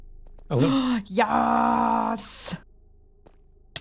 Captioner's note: gasp